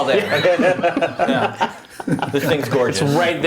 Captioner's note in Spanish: risas